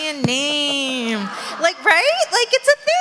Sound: audience laugh

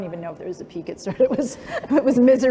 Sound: laughter

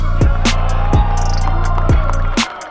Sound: cheering

